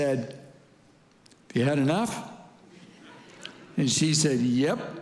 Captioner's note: congregants laughing